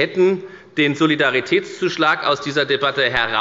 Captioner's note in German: none